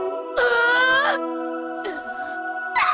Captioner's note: pained cry